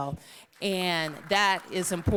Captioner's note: applause